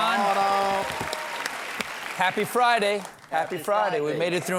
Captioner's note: cheers and applause